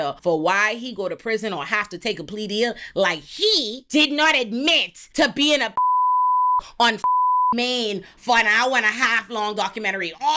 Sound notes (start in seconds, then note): 5.8 beep